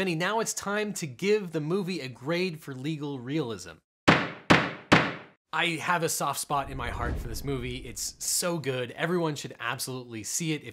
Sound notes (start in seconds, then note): 3.9 pounding